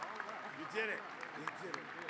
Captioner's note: cheers and applause